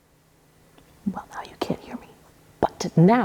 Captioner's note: whispers